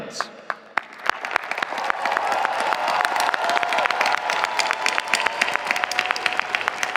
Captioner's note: audience applauding; audience cheering